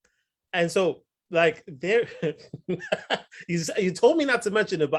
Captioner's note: laughs